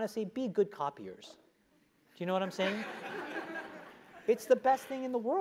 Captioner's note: laugh